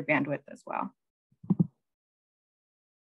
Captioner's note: thud; silence